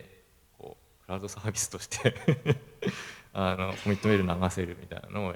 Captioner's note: laugh